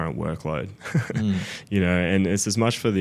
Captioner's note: laughing